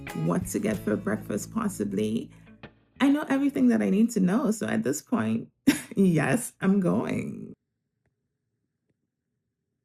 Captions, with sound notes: what to get for breakfast, possibly... I know everything that I need to know, so at this point... [chuckles] yes, I'm going.